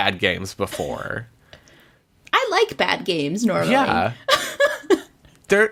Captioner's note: laughs